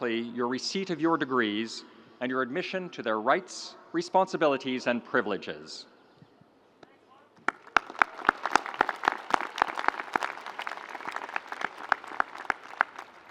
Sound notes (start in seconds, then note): 7.4 audience applauds